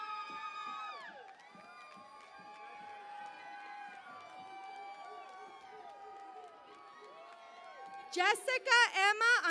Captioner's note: cheering and Applause